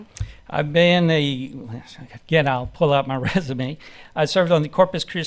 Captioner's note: chuckles